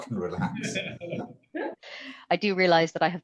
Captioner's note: laughter